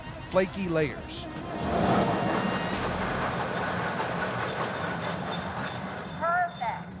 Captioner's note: machine grinding sound